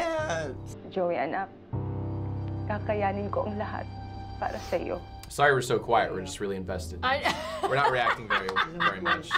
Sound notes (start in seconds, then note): 0.9 mom speaking Filipino; 7.4 cracks up